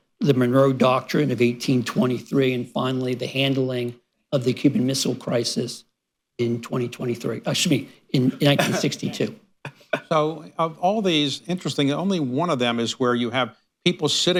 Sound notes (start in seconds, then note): 8.3 laughter